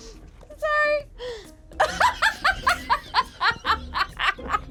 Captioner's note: laughs; group laughs